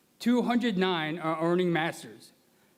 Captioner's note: none